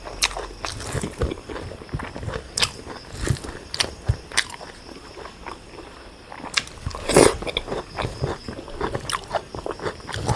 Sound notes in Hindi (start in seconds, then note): 6.6 नाक से की जाने वाली आवाज़